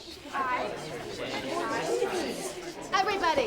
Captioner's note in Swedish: Mall Rats babblar